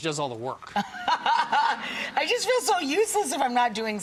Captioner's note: laughing